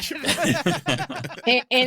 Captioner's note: laughing